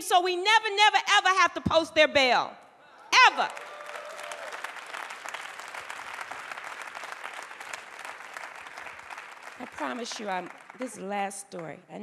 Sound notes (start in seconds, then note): 3.2 applause